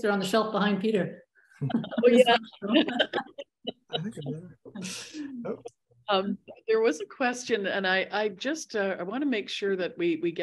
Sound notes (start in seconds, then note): 1.6 laughter